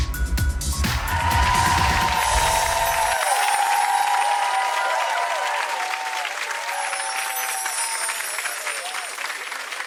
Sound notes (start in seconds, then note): 1.4 audience applauding; 2.2 chimes tinkling